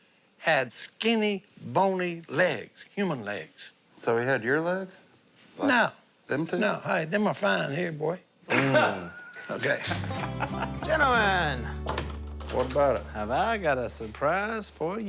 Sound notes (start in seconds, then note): 8.5 laughing